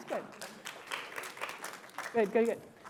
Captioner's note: applause